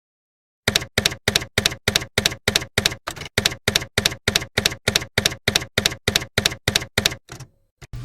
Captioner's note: typewriter keys clacking